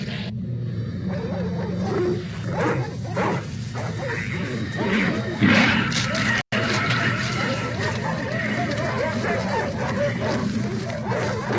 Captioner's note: dog Growling; dogs Barking